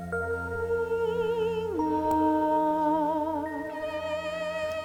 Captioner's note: sirens singing